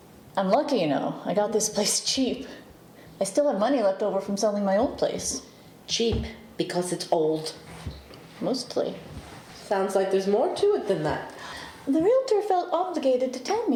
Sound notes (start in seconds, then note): none